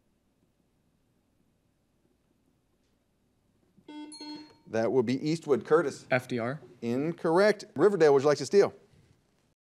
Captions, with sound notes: (buzzer dings) That would be Eastwood. Curtis. - FDR? - Incorrect. Riverdale, would you like to steal?